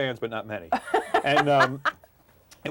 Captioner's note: laughing